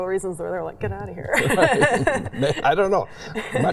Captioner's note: chuckles